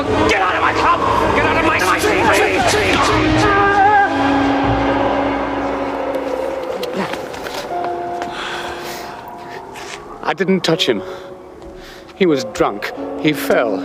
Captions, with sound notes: So get out of my club! Get out of my street! (yells) - I didn't touch him. He was drunk, he fell.